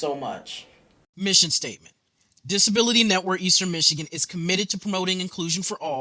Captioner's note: voiceover